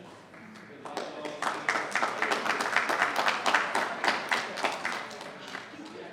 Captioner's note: attendees applauding